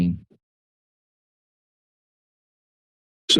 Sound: pause

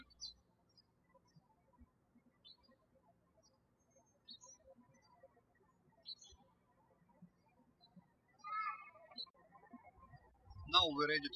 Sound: birds chirping

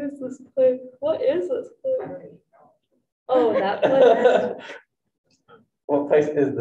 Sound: group laughing

